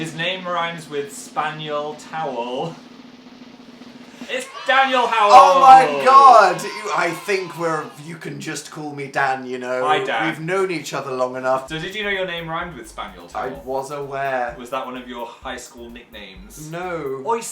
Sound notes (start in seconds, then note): 2.6 drumroll; 2.6 laughs